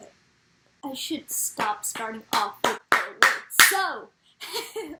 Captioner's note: claps at each word